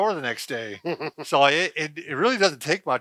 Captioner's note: laughs